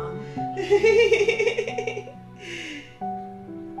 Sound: laughing; gentle piano music

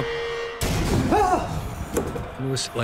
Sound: screams

